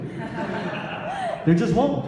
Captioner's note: audience laughs